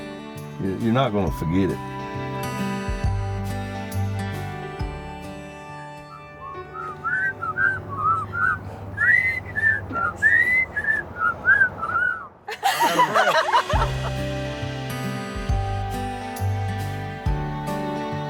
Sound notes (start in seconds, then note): 12.4 laughter